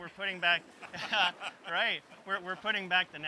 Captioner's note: laughs